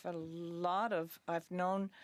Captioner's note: speaking French